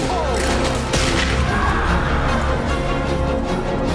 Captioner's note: screaming